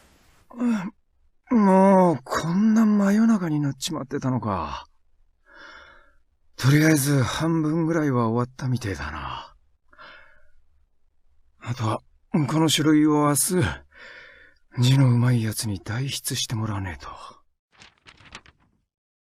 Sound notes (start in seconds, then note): 0.5 yawn